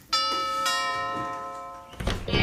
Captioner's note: doorbell rings